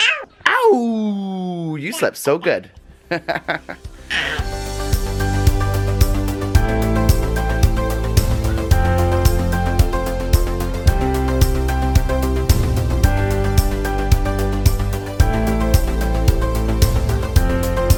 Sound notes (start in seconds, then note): 3.0 chuckles; 4.6 upbeat music